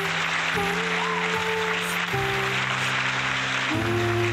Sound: crowd cheering and applauding

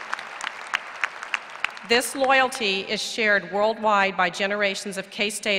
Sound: applause

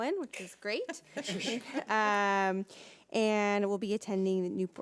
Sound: people laughing

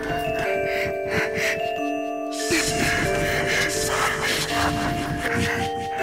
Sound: distorted voice; pants

